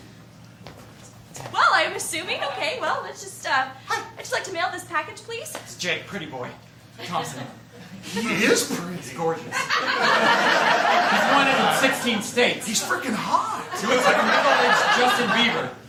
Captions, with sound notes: - (whispering) It's him. - Well, I'm assuming okay, well, let's just uh... - Hi! - I'd just like to mail this package, please? - It's Jake "Pretty Boy" Thompson. - He IS pretty! - He's gorgeous. (laughter) - He's wanted in sixteen states. - He's frickin' hot! - He looks like a middle-aged Justin Bieber.